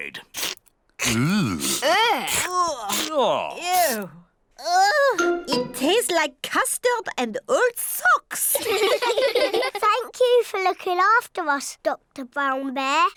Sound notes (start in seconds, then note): 8.6 all laugh